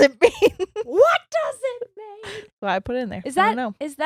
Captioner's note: yells